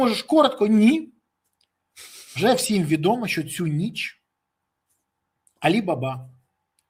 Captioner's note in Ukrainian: сопіння